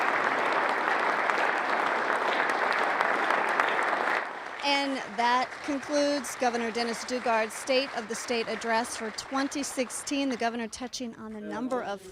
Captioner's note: applause